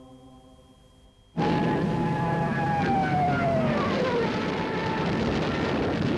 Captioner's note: somber choral music continues; plane engine roaring